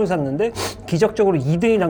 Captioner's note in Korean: 훌쩍